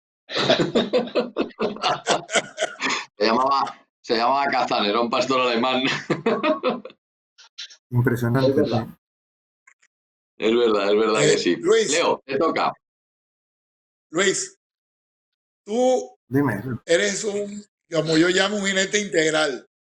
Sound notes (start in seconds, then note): 0.3 laughs